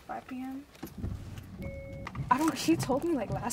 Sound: car beeping

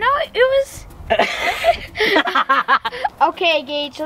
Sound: laughing

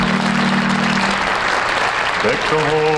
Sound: humming; audience clapping; harmonizing

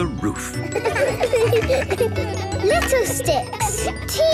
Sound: laughter

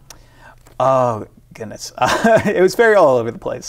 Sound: laughs

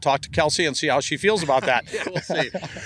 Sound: laughs

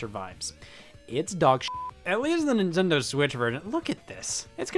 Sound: beep

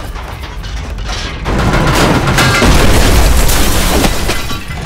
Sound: banging

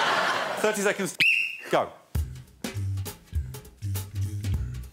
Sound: blows whistle; jazz music playing

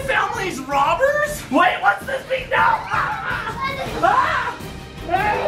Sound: screams

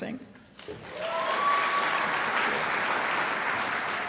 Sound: crowd applauds

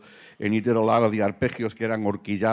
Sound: speaking Spanish

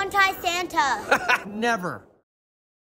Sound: laughs

